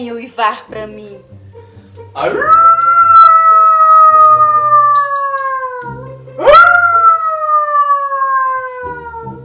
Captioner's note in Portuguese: som de lobo